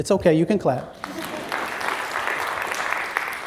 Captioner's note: applause